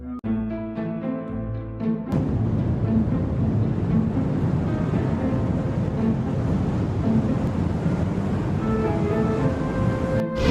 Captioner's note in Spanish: Sonido de Mochila Propulsora